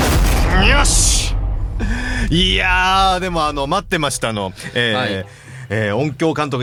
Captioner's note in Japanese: 息をのむ音